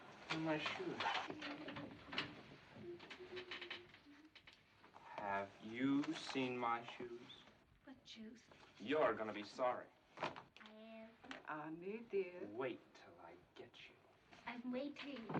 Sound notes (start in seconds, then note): 2.6 humming